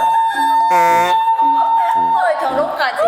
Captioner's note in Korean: 또 사이렌